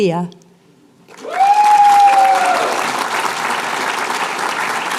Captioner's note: applause, cheering